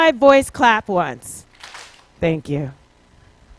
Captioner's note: clapping